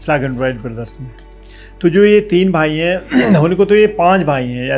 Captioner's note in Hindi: गला साफ़ करने की आवाज़